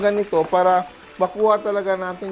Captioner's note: sizzle